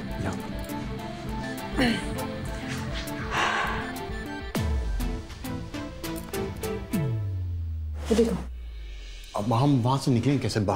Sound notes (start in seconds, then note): 1.6 clears throat; 2.7 exhales sharply